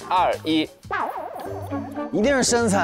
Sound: hesitant

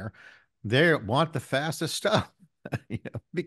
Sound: chuckles

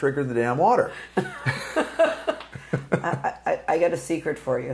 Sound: laughing

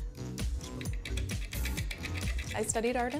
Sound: lathe grinding

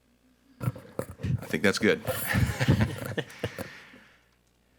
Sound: laughs

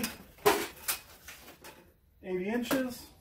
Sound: metal clanking

